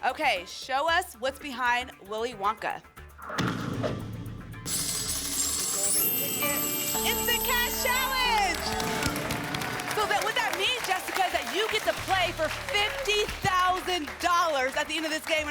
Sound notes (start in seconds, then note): 4.7 raining money sound